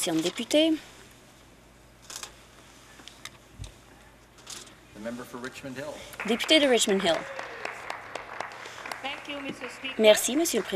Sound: applause

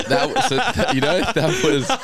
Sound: laughing

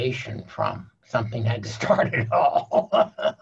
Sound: laughing

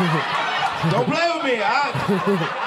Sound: audience laughing

